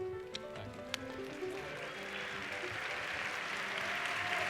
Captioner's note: applauding